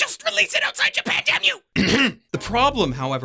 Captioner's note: ahem